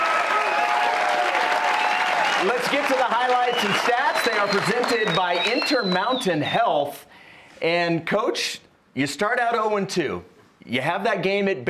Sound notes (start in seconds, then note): 5.5 cheers and applause